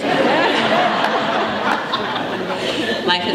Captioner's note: laughter